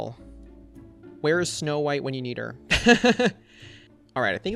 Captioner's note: laughs